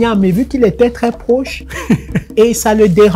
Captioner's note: laughter